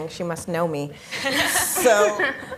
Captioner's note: laughing